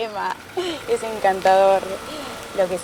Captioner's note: car Moving; laughing